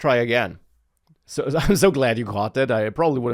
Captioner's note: laughs